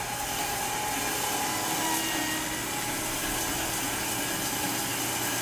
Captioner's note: machine sawing